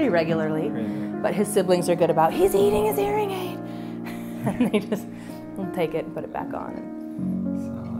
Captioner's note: laughter